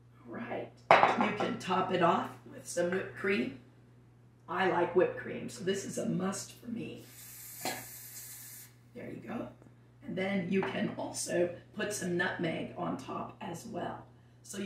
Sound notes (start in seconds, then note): 7.1 cream fizzling